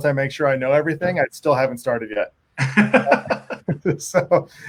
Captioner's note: laughing